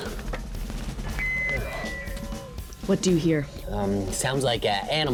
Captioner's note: headphone squealing